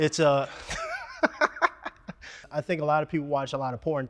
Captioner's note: laughs